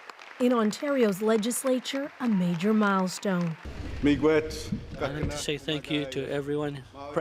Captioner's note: applause